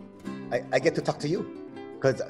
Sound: laughs

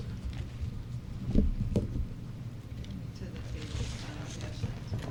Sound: chatter

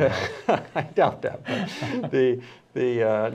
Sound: laughter

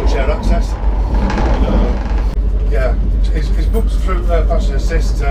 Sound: on phone

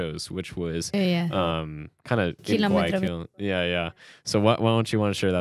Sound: speaks in Spanish

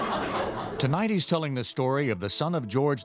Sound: audience laughs; voiceover

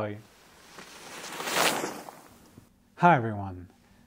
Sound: air whooshing

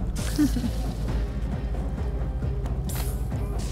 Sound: laughs; dramatic music

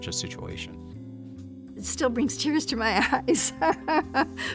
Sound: chuckles

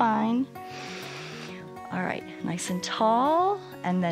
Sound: inhales

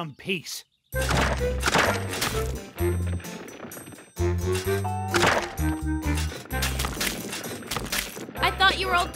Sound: digging

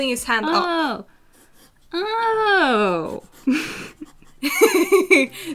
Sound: happy realization noises

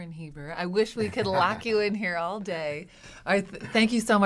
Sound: laughs

